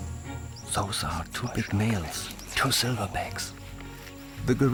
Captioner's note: in German